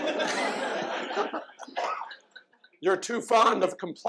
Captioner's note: laughter